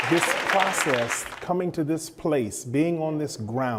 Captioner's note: applause